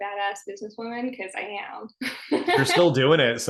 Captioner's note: laughing